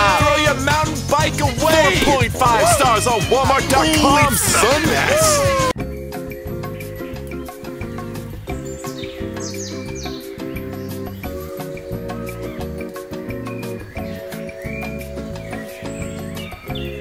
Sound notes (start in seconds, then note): 5.3 instrumental music; 8.7 birds singing